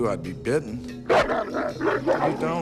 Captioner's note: barking